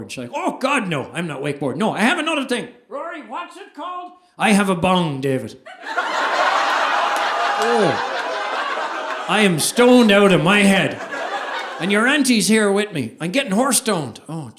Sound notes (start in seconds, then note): 3.0 calling out; 5.6 audience laughing